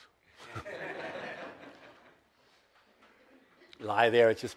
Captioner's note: audience laughs